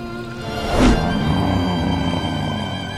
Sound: grunting

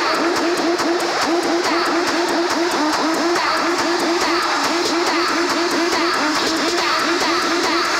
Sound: applause

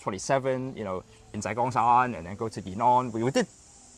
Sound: Cantonese

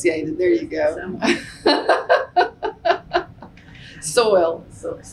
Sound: laughter

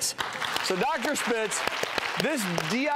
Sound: audience applause

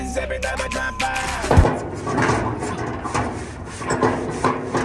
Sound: metal clanking

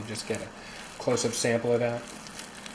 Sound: squishy sound of stirring chopped liver

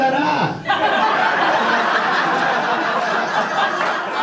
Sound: audience laughs

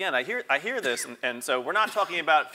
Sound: cough

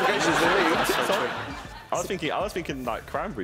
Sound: laughing

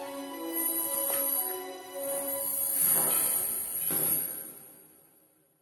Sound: chain fall into sound

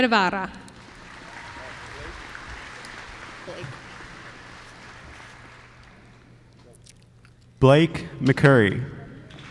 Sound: applause

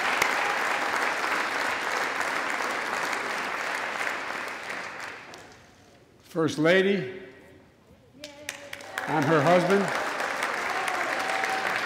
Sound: applause

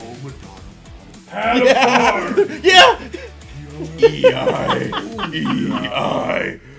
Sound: laugh

